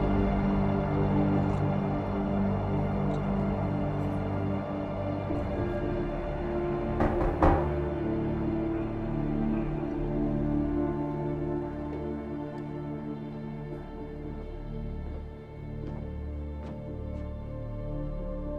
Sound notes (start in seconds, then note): 7.0 knock at door; 8.5 suspenseful music